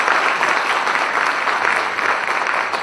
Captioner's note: applause